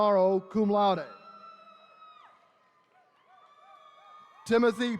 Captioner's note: attendees cheering